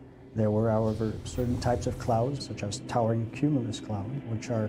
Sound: voiceover

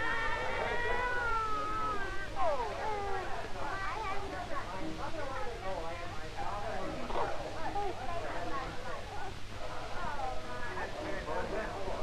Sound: baby crying

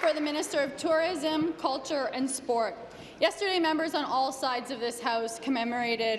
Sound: applause

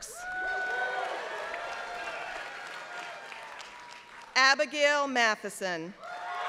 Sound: applause; applause

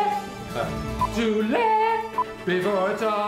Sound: beep

